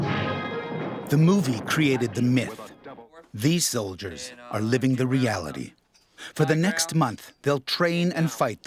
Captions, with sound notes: - [Voiceover] The movie created the myth. These soldiers are living the reality. For the next month, they'll train and fight